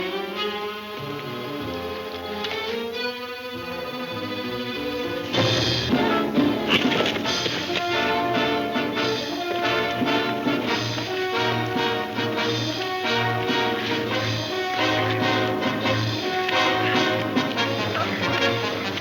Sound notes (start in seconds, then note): 4.9 thrilling music; 14.5 both grunting